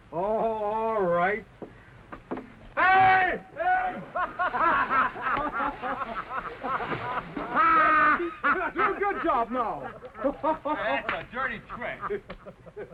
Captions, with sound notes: All right. [ LUCKY SCREAMS ] [ ALL LAUGHS ] - Good job. - That's a dirty trick.